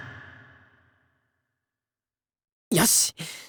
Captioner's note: silence